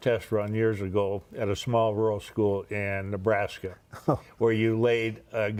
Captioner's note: laughter